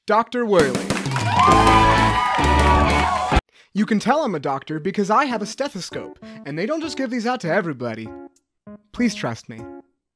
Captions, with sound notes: Doctor Whirly! (sitcom cheering and applause) you can tell i'm a doctor because i have a stethoscope, and they don't just give these out to everybody! please trust me